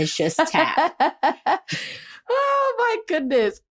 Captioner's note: laughter